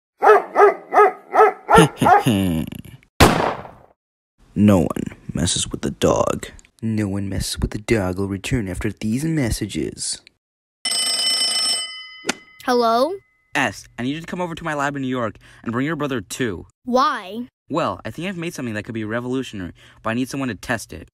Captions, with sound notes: [Dog Barks] He he he! [Gunshot] No one, messes with the dog No one messes with the dog will return after these messages [Phone Ringing] Hello? Es! I need you to come over to my lab in New York And bring your brother too! Why? Well, I think I've made something that could be revolutionary, but I need someone to test it!